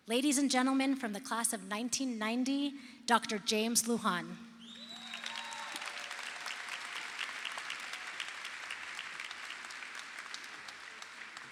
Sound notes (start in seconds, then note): 4.7 crowd applauds